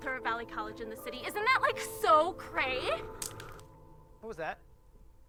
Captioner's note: figure grumbles